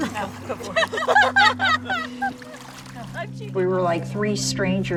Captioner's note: people laughing